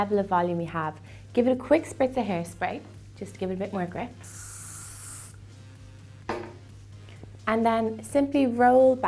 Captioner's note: spraying